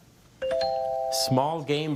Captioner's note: bell chimes